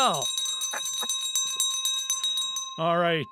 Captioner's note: bell ringing